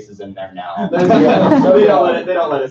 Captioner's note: laughter